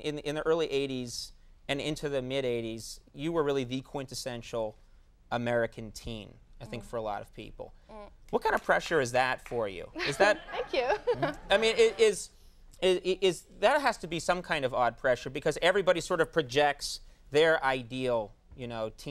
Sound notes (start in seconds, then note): 9.4 some audience clapping; 10.0 Molly giggles